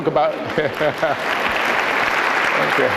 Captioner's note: applause